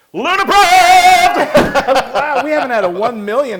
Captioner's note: laugh